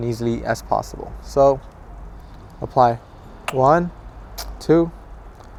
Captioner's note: bottle squirts